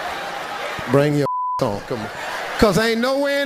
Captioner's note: beeping